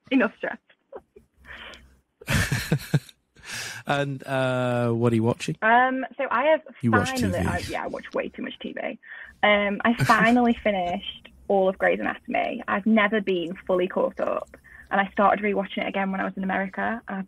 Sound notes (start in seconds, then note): 2.2 laughs